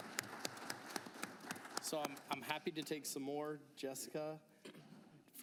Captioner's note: applause